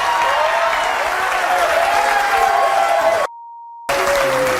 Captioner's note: audience cheering; audience applauding